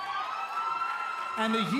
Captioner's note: cheers & applause